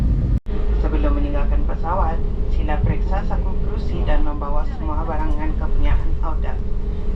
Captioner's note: in-flight announcement in Malay